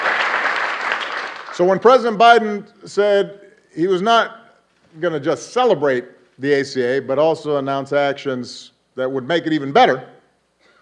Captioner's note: applause